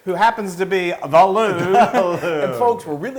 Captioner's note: laugh